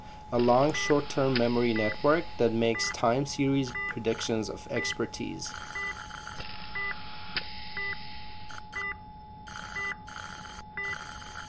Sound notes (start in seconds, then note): 5.3 long Mechanical Tone, Beeping and Suctioning Sound; 7.4 beeping and Suctioning Sound; 9.4 long Mechanical Tone, Beeping and Suctioning Sound